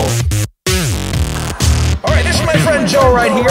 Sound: TV static

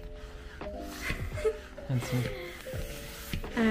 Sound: laughs

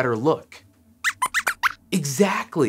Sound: squeaks squeaks

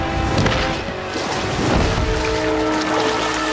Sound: splash

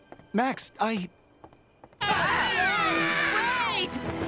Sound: everyone screaming

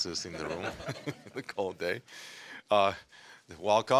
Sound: audience laughing

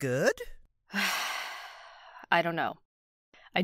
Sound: deep breath

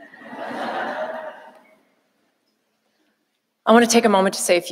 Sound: audience applauding

